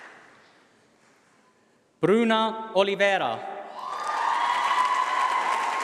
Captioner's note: applause